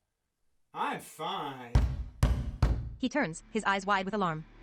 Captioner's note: deep banging on door